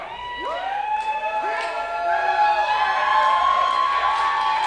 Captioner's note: crowd cheering